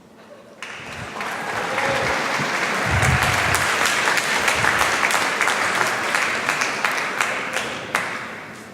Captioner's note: applause